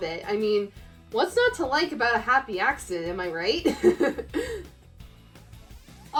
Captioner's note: laughs